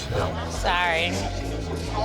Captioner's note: man chuckling